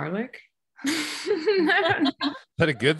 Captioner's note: laughs